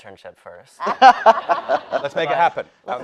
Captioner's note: panelist laughing